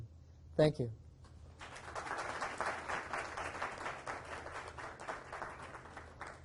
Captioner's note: audience applauds